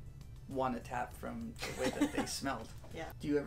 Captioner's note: laughter